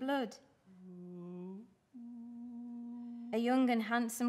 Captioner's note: sender hums slow wedding song